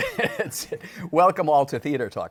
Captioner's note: laughs